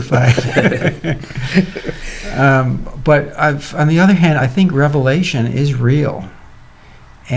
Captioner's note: laughter